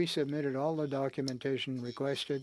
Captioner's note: speaking French